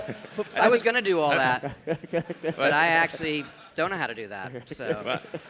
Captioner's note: laughter